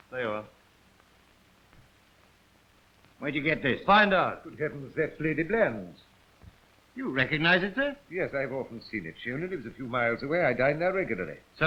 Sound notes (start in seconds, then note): none